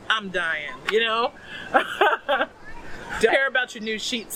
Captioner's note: laugh